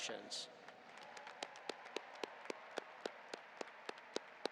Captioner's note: audience applauding